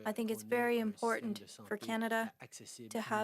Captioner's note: speaking French